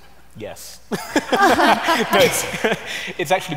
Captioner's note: laughter